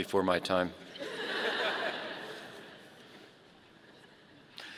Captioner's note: audience laughing